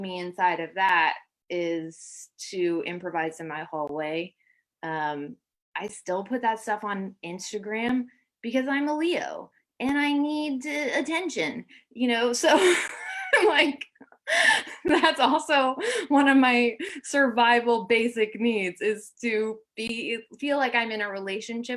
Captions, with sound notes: ME INSIDE OF THAT IS TO IMPROVISE IN MY HALLWAY, I STILL PUT THAT STUFF ON INSTAGRAM, BECAUSE I'M A LEO, AND I NEED TO -- THE ATTENTION. [LAUGHTER] THAT'S ALSO ONE OF MY SURVIVAL BASIC NEEDS, IS TO BE -- FEEL LIKE I'M IN A RELATIONSHIP,